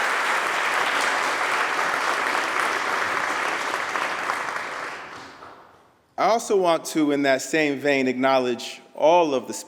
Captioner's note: applause